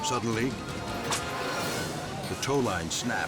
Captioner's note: cable cracks